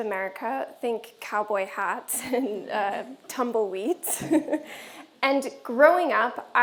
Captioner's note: chuckles